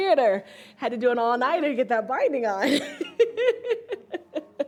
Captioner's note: laughs